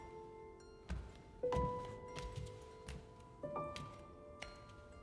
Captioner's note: footsteps